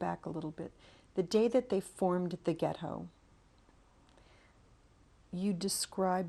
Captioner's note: pauses for 3 seconds